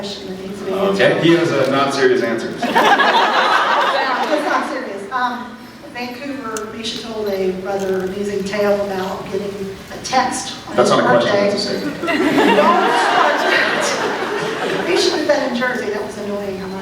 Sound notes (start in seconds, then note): 2.6 laughs; 11.7 laughs